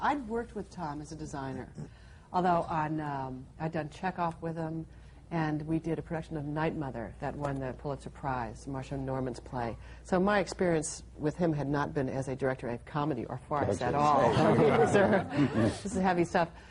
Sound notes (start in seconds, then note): 14.1 laughter